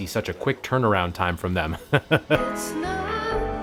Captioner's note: laughs